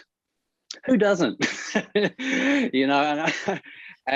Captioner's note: Murray laughs